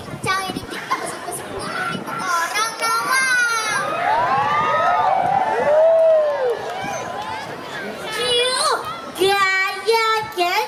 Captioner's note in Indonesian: Tepuk tangan